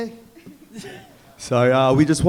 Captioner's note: chuckling